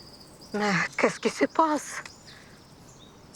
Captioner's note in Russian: говорит по-французски